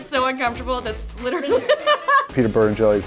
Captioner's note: laughing